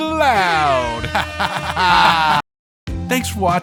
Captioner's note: laughing maniacally over airhorns